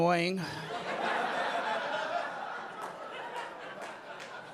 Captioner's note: audience laughing